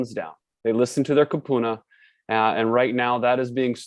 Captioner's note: speaks in a foreign language